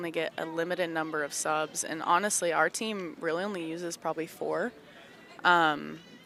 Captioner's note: none